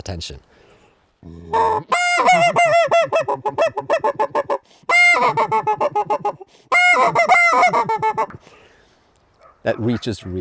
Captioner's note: geese honking